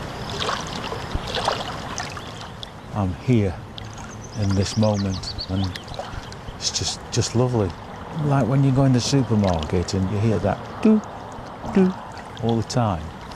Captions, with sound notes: [water sloshing] I'm here in this moment, and it's just, just lovely. Like when you go in the supermarket that do, do all the time,